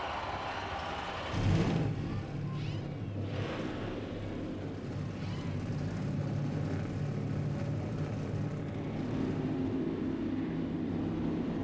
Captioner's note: engines roar